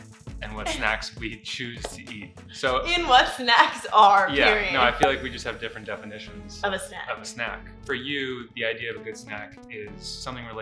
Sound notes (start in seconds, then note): 4.3 laughing